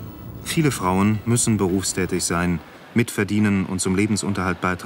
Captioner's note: archival sound